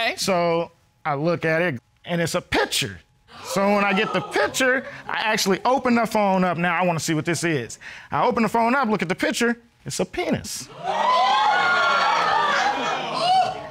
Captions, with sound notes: So I look at it. And it's a picture. -[audience gasping] -So when I get the picture, I actually open her phone up. Now, I wanna see what this is. I open her phone up, look at the picture. -It's a penis. -[audience cheering]